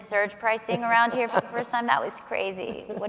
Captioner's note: laughing